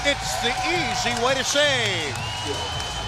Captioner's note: indistinct chatter